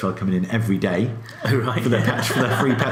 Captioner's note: laughs